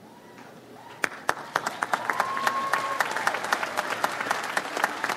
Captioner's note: audience applauds